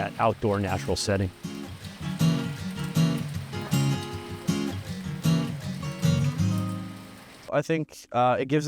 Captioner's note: raindrops patter